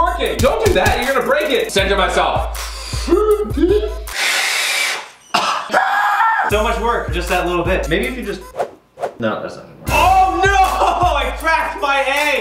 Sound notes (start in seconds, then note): 2.8 inhaling; 4.4 blowing; 5.3 coughs; 6.1 screeching